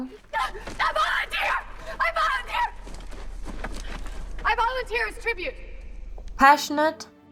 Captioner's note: Katniss screaming